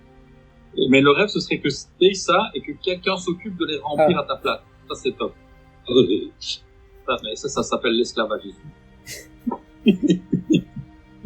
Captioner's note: laughs